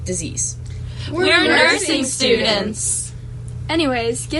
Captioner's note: all say together